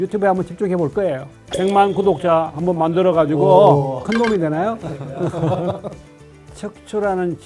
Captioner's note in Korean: 웃음